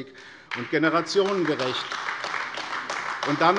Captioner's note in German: Beifall AfD